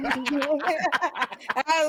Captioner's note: laughter